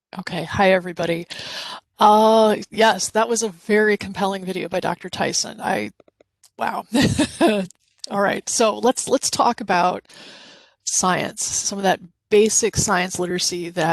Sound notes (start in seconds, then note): 6.9 chuckles